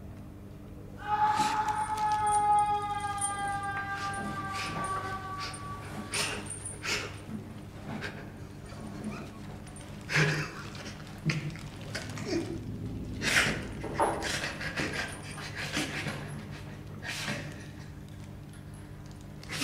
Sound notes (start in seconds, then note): 1.0 screams of pain; 6.8 sobs